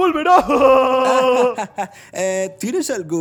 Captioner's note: laughs manically